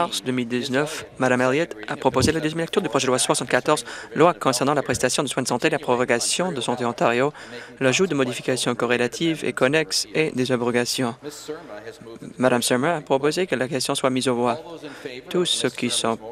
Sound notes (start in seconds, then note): none